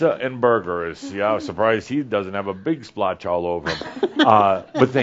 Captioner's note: giggles